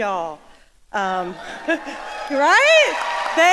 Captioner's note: audience cheering